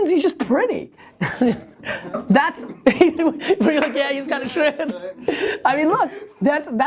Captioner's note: laughter